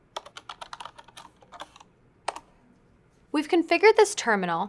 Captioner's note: typing